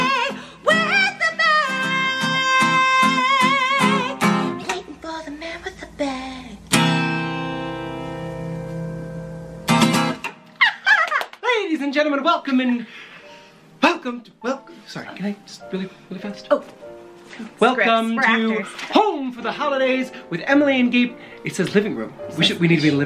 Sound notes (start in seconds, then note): 4.8 whipsers; 6.2 guitar strum; 10.6 cheers and giggles